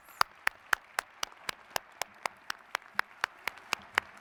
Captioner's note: audience applauds